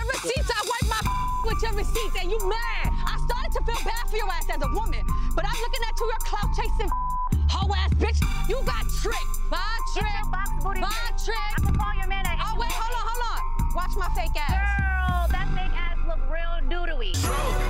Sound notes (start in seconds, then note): 1.2 beep; 6.9 beep